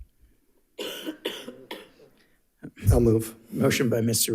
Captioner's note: coughs